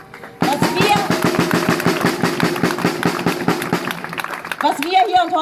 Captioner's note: drumming applause